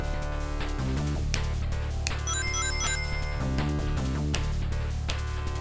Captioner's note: snap